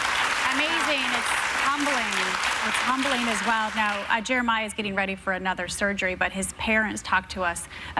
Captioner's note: applause